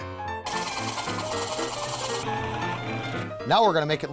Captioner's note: drilling